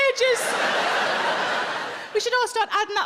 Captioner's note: audience laughs